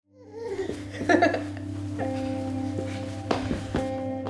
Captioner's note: giggles; pensive music